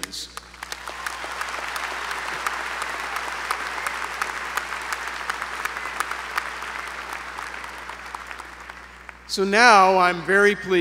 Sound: applause

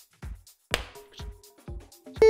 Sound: popping Sound

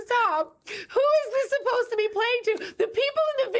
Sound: laughs

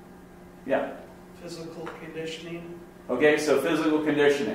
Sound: voiceover

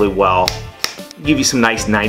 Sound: smacking

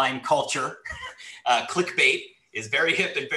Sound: laughs

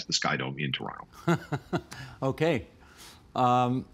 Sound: laughing

